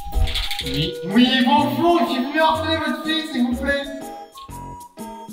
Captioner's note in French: porte ouverte; echo